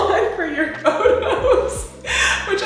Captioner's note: laughs